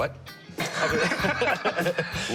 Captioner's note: laughing